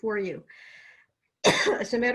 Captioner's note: coughs